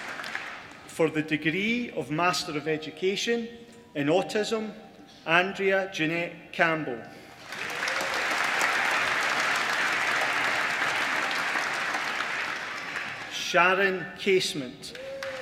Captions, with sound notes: for the degree of MASTER OF EDUCATION in Autism Andrea Jeanette Campbell (APPLAUSE) Sharon Casement